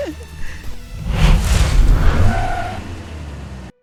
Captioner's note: laughs